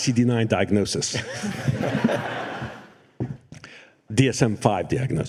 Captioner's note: laughter